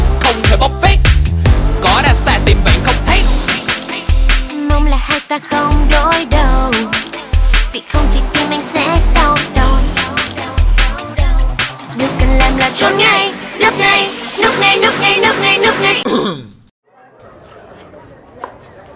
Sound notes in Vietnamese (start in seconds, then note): 16.0 tiếng ho